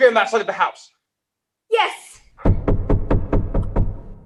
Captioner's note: loud knocking at the door